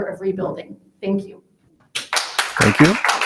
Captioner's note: attendees applauding